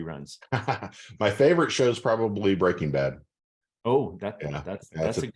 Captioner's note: laughs